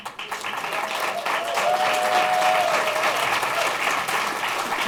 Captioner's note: applause